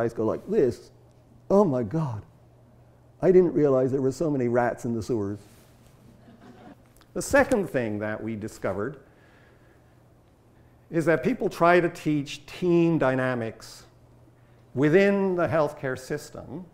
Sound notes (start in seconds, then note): 6.1 audience laughter